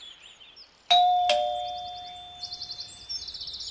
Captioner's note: doorbell chimes